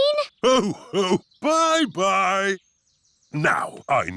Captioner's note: laughs